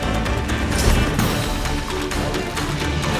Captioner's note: magical chime